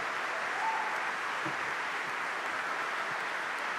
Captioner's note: cheering